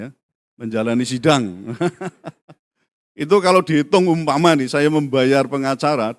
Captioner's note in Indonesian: tertawa